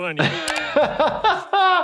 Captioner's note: laughing